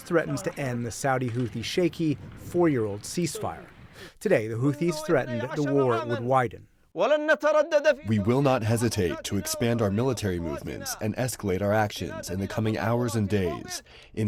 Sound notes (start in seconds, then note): 8.8 through translator